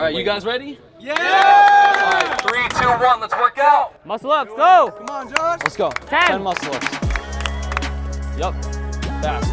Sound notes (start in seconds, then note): 1.0 crowd cheers and claps; 4.9 crowd clapping hands; 7.5 tense electronic music